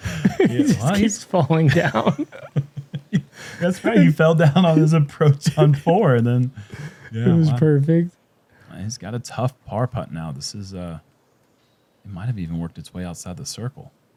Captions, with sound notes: -He just keeps falling down. [laughter] -That's right. He fell down on his approach on 4 and then-- Yes, wow. -It was perfect. -Well, he's got a tough par putt now. It might've even worked its way out of the circle.